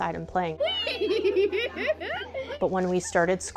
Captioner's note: laughter